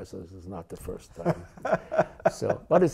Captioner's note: laughter